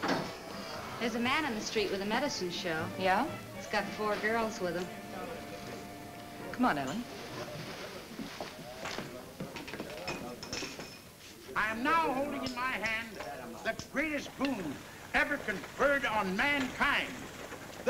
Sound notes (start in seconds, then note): none